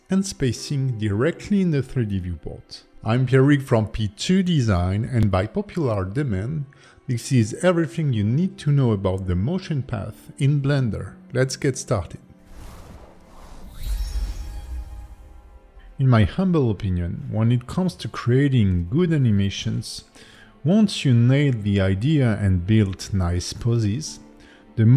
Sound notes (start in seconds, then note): 12.4 logo whooshing; 12.8 tranquil music